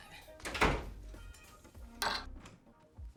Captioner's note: door shuts; glass clinks